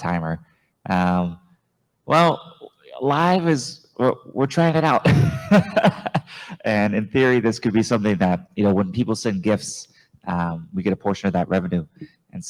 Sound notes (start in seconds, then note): 5.1 laughs